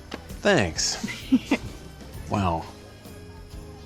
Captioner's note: giggles